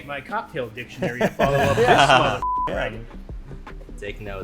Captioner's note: beep